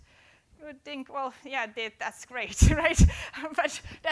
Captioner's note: laughing